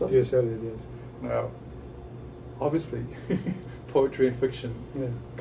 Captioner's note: laughs